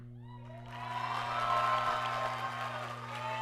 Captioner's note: applause